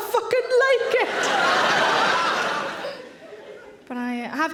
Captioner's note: audience laughing